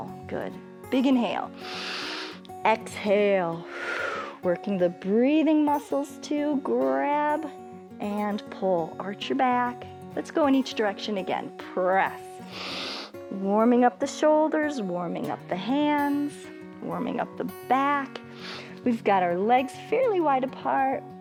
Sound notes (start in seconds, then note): 1.5 exhales; 1.6 inhales; 12.4 inhales